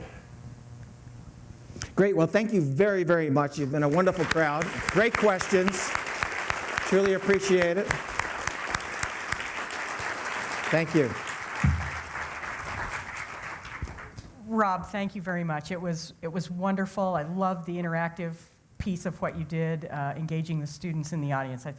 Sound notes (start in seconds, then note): 8.5 applause